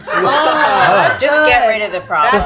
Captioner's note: group laughs